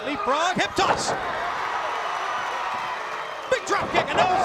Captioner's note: crowd cheering